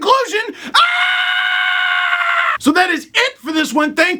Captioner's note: screams Ahhhh! repeatedly